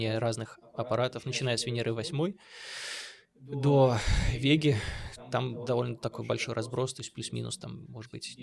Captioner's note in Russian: тяжело вздыхает; вздыхает